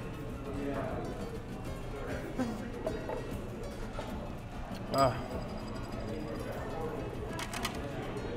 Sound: laughs

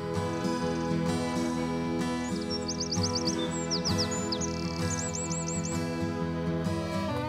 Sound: birds chirping; soothing music

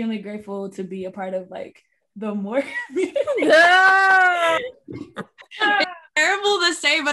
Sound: all laughing

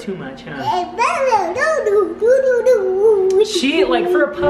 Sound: baby talk

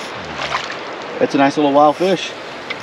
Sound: fish splashing

